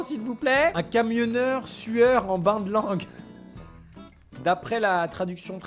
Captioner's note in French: rire